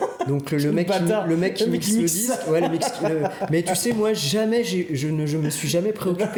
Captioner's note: laughs